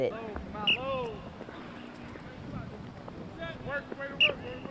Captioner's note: whistle blows